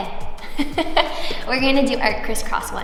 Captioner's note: laughs